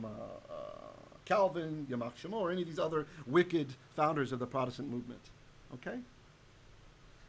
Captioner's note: Hebrew